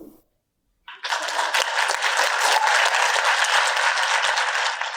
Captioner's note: audience applauding